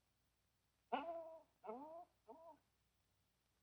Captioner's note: dog whining